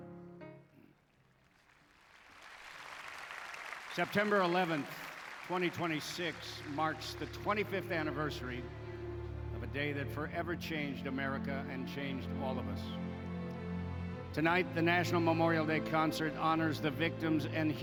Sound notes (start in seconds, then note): 1.2 applause